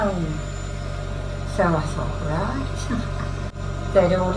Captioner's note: laughs